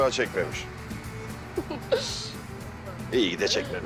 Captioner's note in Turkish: Gülüyor